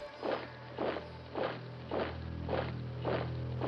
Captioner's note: boot sounds